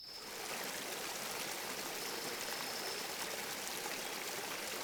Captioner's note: water rushing